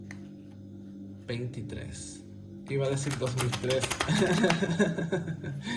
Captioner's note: laughter